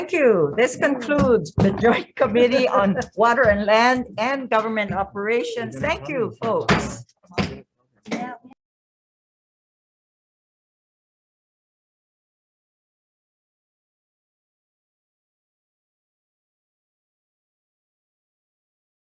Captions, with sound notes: - Thank you. This concludes the Joint Committee on Water and land and Government Operations. Thank you. (gavel banging)